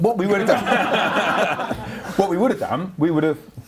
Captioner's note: laughs